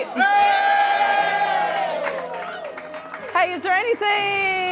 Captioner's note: cheering